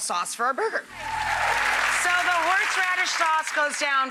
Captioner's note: audience applauding